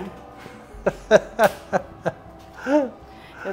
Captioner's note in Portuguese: risos